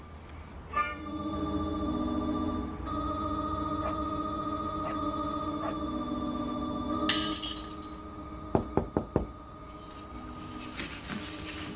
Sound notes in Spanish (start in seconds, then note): 2.6 Ruidos en la televisión; 8.5 Toques en la puerta